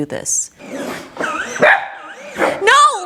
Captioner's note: machine whirs; Matty barks